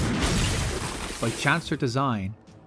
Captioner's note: smashing glass